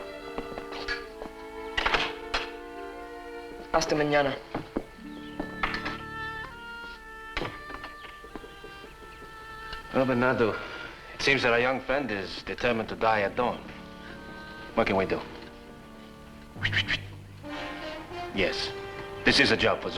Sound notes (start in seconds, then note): 16.5 swishing